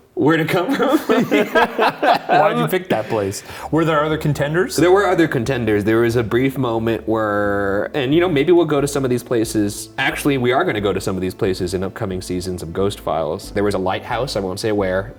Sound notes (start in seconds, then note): 0.6 both laughing